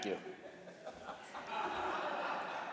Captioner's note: laughter